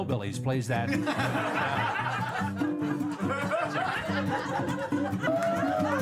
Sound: laughter

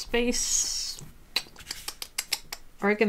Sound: tutting

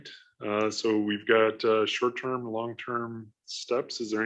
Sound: laughs

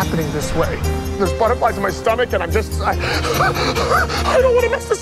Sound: gasping

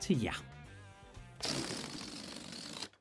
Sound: farting-noise

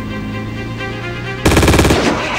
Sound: bratatatatata; truck engine starts

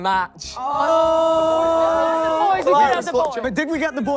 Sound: contestants groaning

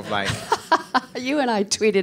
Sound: laughing

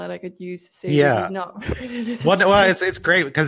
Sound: laughs

